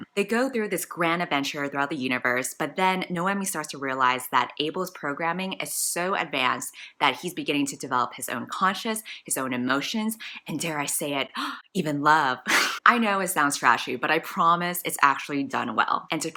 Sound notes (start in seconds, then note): 12.5 gasp; 12.5 laughs